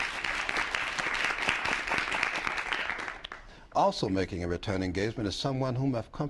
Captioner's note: applause